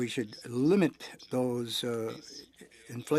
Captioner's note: speaking french